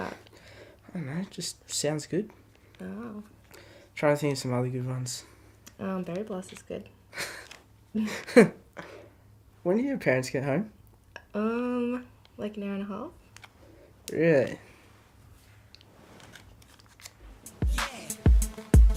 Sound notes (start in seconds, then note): 8.0 laughter; 17.4 hip Hop music